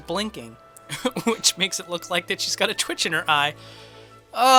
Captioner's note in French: rires